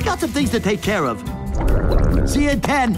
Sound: stomach groaning

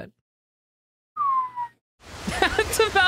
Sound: downward Slide Whistle

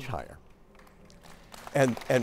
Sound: applause

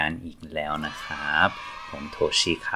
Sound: kids cheering YAY!!!

